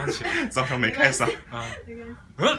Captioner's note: laughs